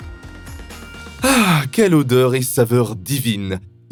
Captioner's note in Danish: taler fransk